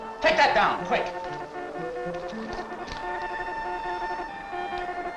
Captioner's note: beeping